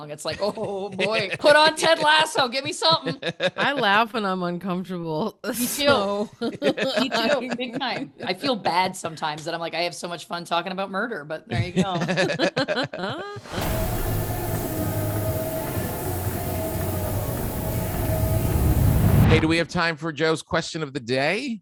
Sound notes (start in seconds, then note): 6.4 laughing; 11.9 laughing; 13.4 tread mills whirring